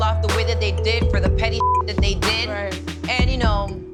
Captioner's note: beep